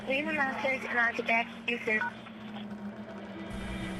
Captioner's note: beeping